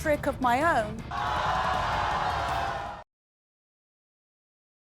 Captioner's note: crowd shouting